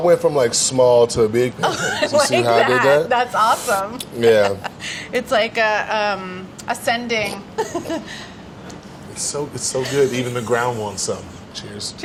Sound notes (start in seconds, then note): 1.6 laughs